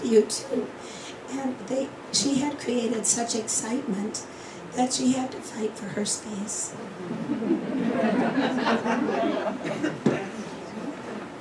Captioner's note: laughter